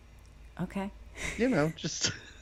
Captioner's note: giggling